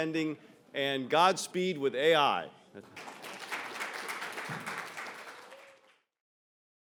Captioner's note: audience applauds